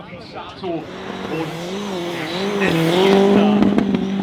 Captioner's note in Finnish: moottorin ääniä